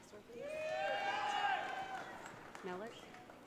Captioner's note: audience cheering